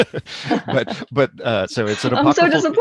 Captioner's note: laughter